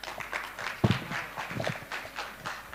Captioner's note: applause